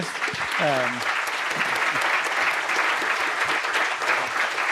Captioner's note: audience applauding